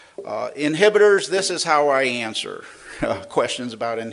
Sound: laughs

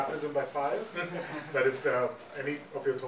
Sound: audience laughing

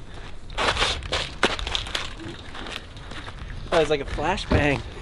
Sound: dropped rattle can

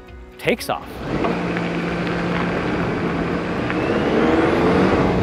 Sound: car engine roaring

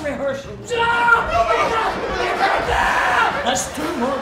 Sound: shouting

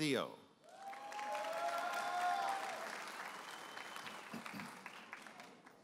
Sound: audience applauding and cheering

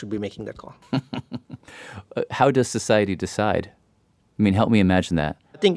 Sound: laughs

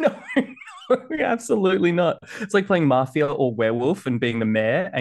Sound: laughs

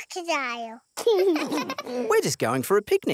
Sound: both laugh

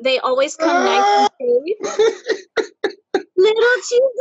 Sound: laughs

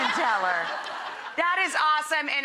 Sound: audience laughing

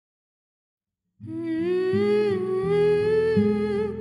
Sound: 𝅘𝅥𝅮 Humming 𝅘𝅥𝅮

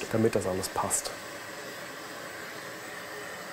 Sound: loud whirring

